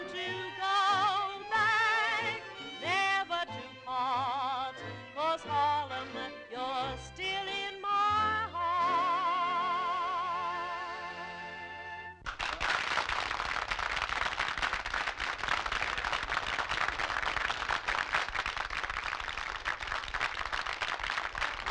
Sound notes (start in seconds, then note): 12.8 audience applauding